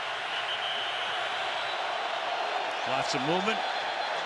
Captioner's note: whistle blows